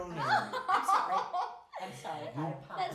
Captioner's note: laughing